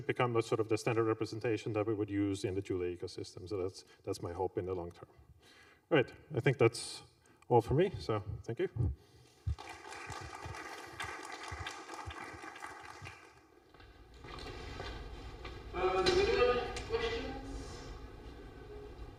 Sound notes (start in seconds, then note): 9.4 applause